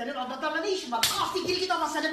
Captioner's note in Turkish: şaplak